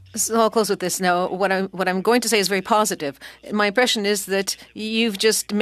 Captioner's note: speaking French